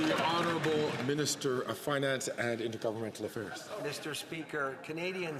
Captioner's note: some Applause